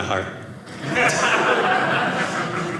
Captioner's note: audience laughing